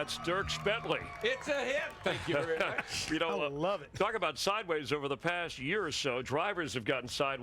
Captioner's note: applause